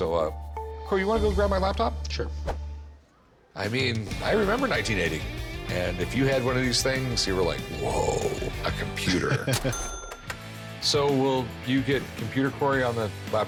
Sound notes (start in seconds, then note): 8.3 laughs